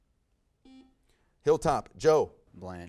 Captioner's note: buzzer buzzes